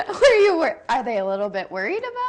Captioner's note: both laughing